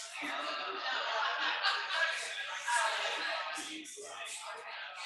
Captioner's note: people chattering indistinctly